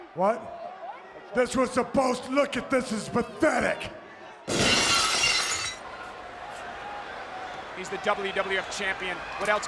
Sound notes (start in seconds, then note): 4.5 glass shatters; 7.5 audience cheers